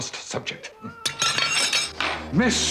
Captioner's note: Sir Roderick drops tableware